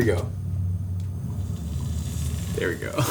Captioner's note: meatballs sizzling